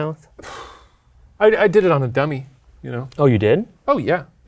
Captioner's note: sighs